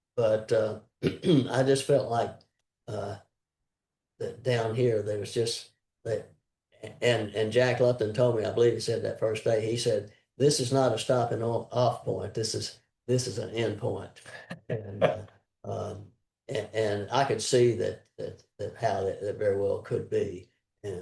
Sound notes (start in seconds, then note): 14.3 laughter